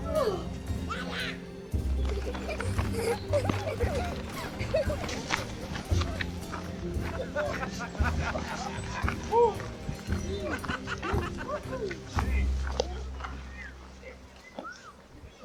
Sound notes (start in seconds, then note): 1.6 children laughing; 4.2 mellow melodic music; 7.7 gang laughing